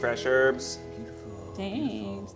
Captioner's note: whispers